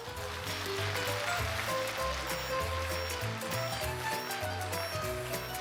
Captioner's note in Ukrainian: оплески